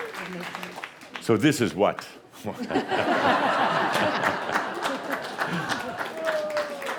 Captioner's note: laughter and more applause